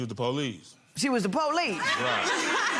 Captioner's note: laughing